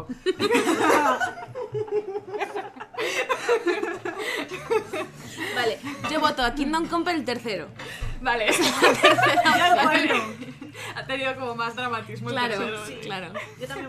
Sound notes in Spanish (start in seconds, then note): 0.0 risas; 8.4 risas